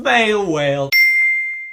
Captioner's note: ding sound effect